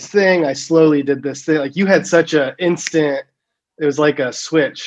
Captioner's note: snaps fingers